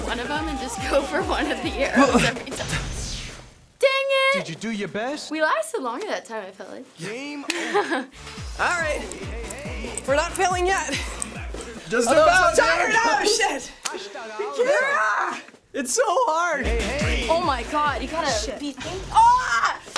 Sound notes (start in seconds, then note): 7.5 laughs; 14.8 screaming